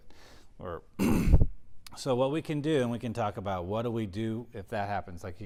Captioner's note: cough